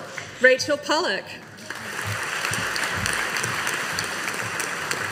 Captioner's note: audience applauding